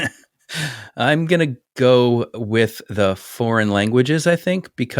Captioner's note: laugh